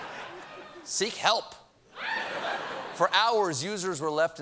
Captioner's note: laughter